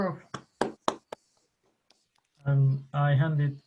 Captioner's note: hands clapping